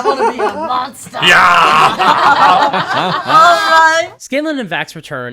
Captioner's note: laughter